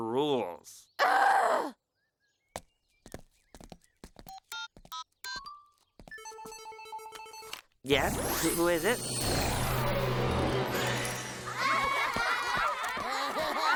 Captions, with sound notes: UURRGH! [CELL PHONE RINGS] YES? WHO IS IT? [GIRLS LAUGH]